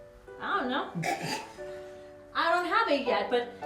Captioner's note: Billy sputters